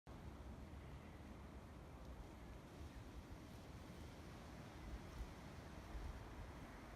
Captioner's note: wind and bird song